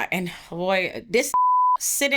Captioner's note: beep